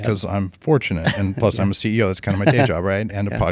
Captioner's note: chuckles